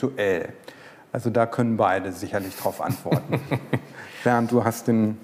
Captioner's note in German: lachen